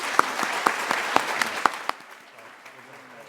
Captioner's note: applause